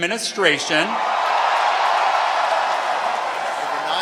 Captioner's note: cheering